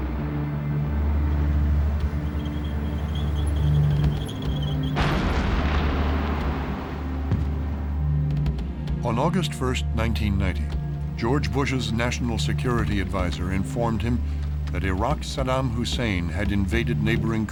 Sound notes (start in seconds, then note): 1.3 squeaking; 4.8 explosion